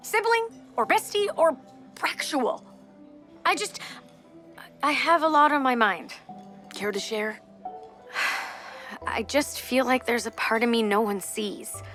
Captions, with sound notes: Sibling or Bestie or... Braxual. I just... I have a lot on my mind. Care to share? [Jessa gasps] I just feel like there’s a part of me no one sees...